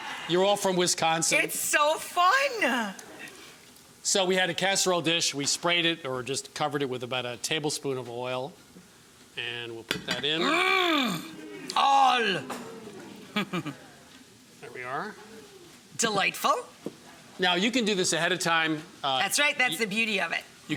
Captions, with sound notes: You're all from Wisconsin. It's so fun! So we had a casserole dish. We sprayed it or just covered it with about a tablespoon of oil, and we'll put that in. Mmm! All! (chuckles) There we are. Delightful. Now, you can do this ahead of time. That's right. That's the beauty of it.